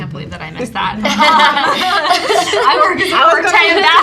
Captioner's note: all laughs